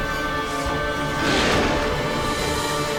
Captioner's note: snarl